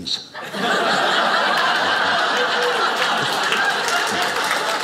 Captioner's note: audience laughing; audience applauding